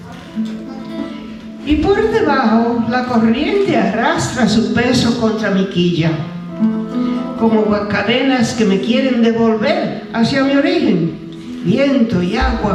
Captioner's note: speaking spanish